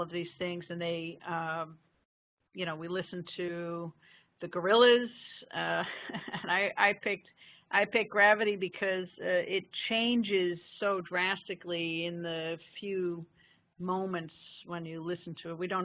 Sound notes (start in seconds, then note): 4.8 laughing